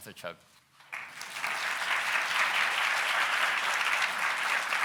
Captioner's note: audience applauds